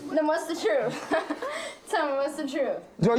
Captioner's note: laughs